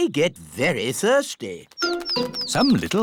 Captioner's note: tweeting